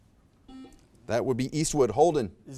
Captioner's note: buzzer beeps beeps